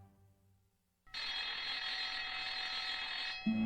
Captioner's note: bell ringing